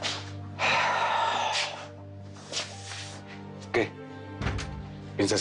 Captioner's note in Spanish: Saúl exhala